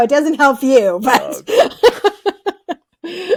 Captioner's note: laughing